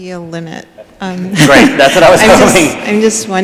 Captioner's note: laughs